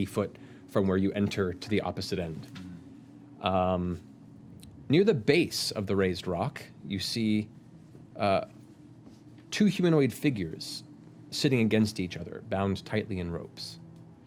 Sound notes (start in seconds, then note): none